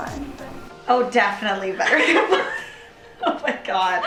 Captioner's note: laughing